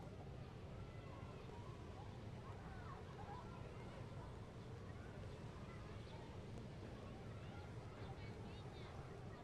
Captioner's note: children, people talking in background